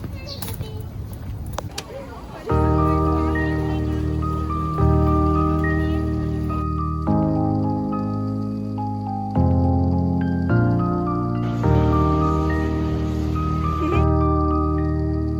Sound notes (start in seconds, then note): 1.5 crowd